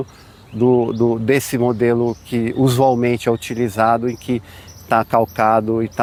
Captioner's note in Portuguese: som de pássaros